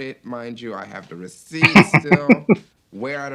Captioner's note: chuckling